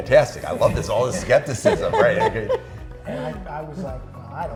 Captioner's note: laughing